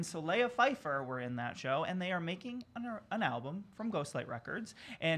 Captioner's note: stutters